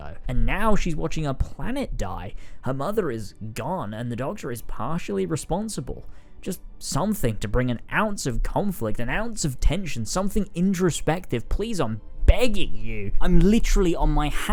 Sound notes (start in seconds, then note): none